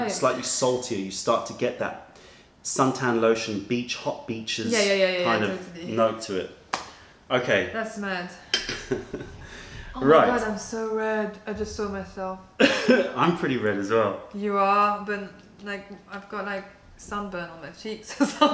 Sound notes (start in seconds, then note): 8.6 laughter; 12.6 laughter